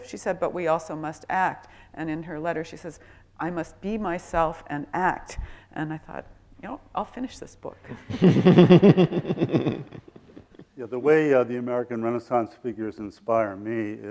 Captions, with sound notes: she said but we also must act, and in her letter she says I must be myself and act and I thought you know, I'll finish this book. (laughing) - Yeah the way the American Renaissance figures inspire me